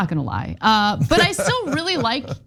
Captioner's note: laugh